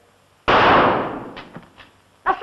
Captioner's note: gunshot